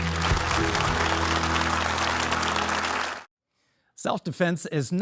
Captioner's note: audience applauding